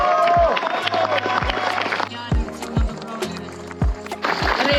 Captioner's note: applause